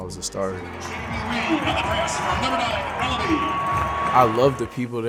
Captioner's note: crowd cheering